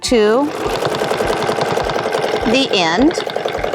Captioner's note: machine whirring